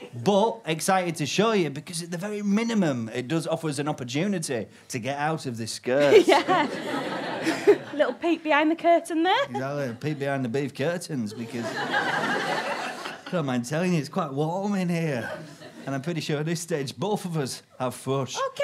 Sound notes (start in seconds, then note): 6.0 audience laughter; 11.2 audience chuckle